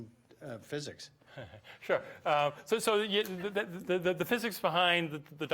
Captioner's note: chuckles